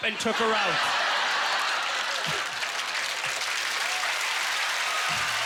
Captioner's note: applause